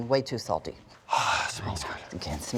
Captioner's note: sighing